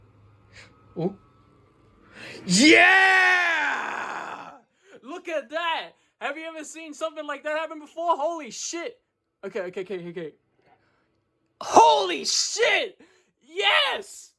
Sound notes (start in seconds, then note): 4.7 gasp